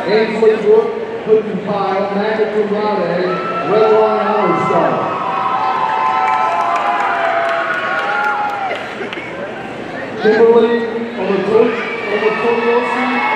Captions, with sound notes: Ainsley Brooke Hoodenpyle, magna cum laude, a Redwine Honorary Scholar. (audience cheering and applauding) Kimberly Omotoyosi Jaiyeola,